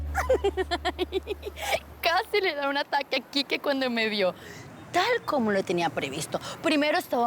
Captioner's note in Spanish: Risas